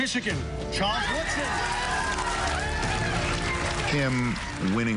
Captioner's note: cheering and applause